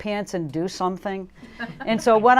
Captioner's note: laughter